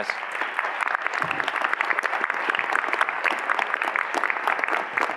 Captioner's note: audience applauding